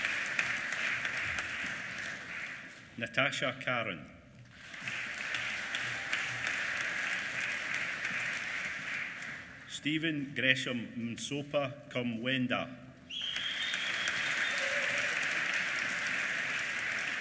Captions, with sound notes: Natasha Caron. (APPLAUSE) Steven Gresham Msopa Kumwenda. (APPLAUSE)